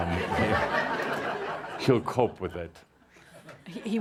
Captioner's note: laughter